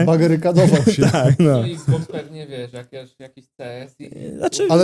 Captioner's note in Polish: śmiech